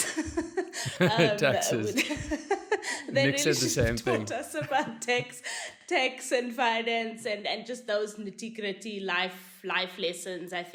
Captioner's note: laugh